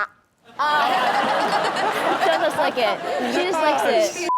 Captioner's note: audience and Chanel laugh